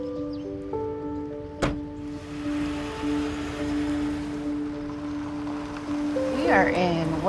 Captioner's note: car door closing; car engine purring